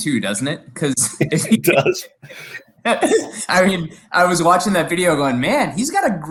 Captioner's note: laugh